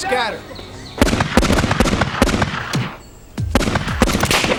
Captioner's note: weapons firing